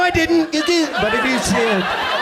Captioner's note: audience laughs